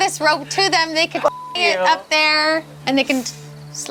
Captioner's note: beep